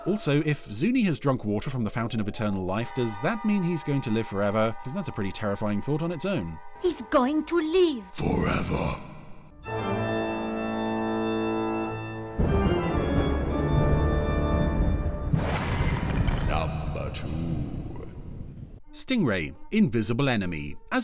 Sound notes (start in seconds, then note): 8.3 ominous Voice; 9.7 dramatic music